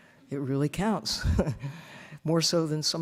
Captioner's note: chuckling